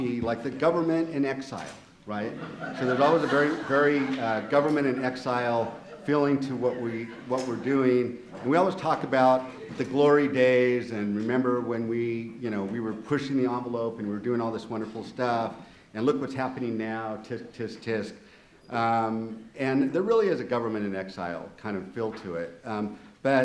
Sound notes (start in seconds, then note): 2.2 audience laughing